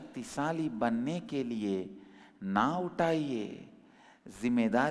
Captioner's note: hindi